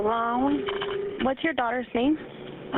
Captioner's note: 911 recording